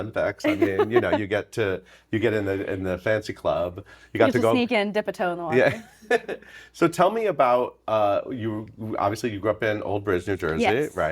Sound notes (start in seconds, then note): 0.5 Laurie laughing; 5.6 chuckling